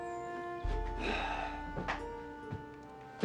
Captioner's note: sighing